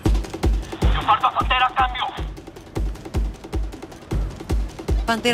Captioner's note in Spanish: Voz en la radio